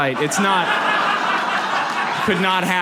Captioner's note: audience laughs